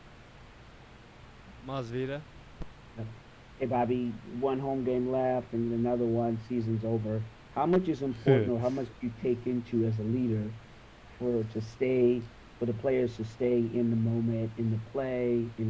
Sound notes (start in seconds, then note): 8.1 Bobby laughs